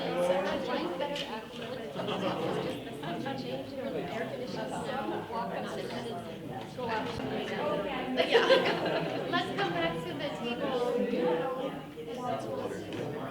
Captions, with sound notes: - Change in the air conditioning so I'm walking out. (chattering) - Yeah. (laughs) Let's come back to the table.